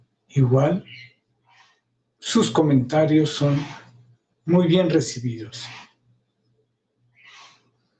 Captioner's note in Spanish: resoplido